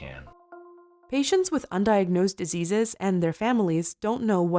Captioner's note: voiceover